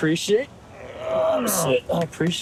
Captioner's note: both grunting